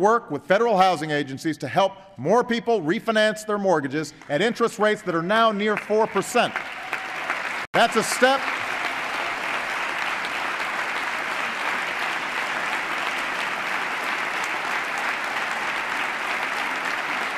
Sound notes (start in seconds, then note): 11.4 applause